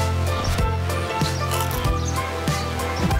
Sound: chewing

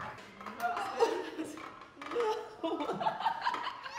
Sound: laughing

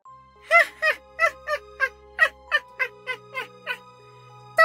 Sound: Maniacal Elmo Laughter

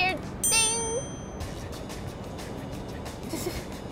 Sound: ding; laughing

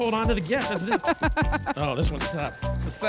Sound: laughs

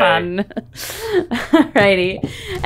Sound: laughs

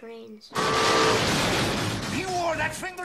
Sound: train whistle

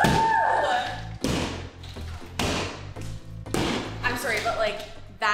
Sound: sledgehammer bangs

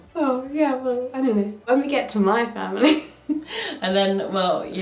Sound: laughs

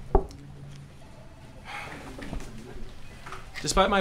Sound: knocking; office chatter; phone ringing

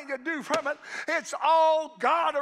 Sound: hand striking

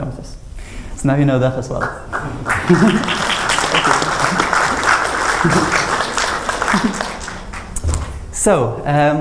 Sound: applause

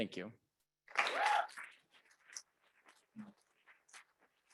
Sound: audience clapping

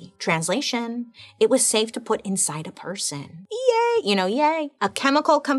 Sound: none

